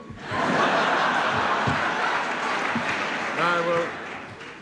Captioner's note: laughter